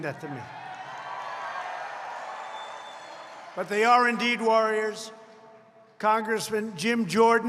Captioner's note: applause